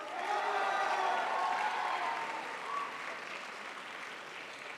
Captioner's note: crowd applauds